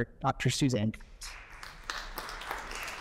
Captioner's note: applause